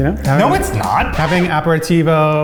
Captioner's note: record scratch